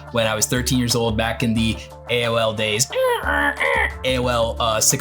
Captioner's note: imitates dial-up screeching